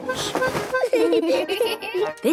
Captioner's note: giggling